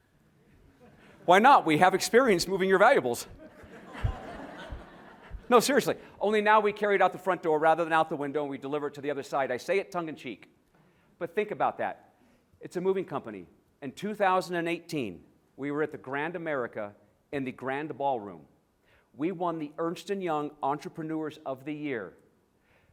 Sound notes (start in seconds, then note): 3.3 laughter